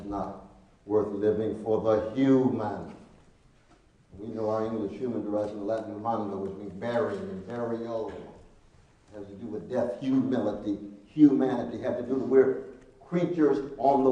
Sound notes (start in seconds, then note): 7.6 speaking Latin